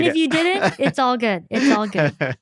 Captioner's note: laughter